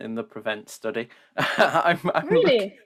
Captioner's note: laughs